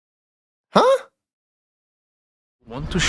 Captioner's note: puzzled sound